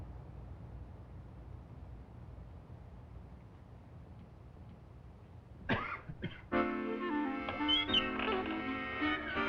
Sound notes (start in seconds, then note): 5.6 coughs; 6.5 nostalgic music